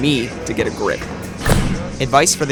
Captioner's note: thud